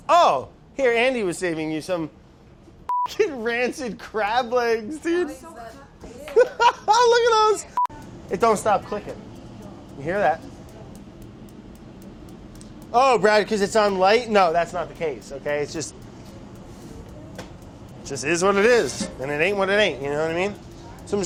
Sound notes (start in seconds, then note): 6.2 laughter; 11.7 steady clicking